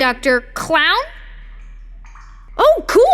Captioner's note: water dripping